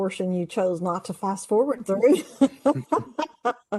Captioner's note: laughs